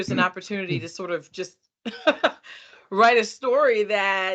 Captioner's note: chuckling